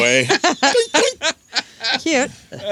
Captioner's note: laughter